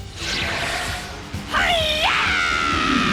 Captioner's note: topaz yells